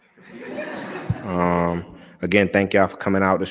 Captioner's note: laughter